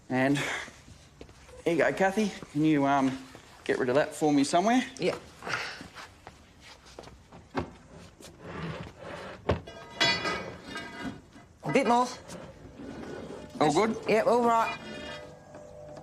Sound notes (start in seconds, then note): 8.3 metal scraping; 9.4 wooden thumping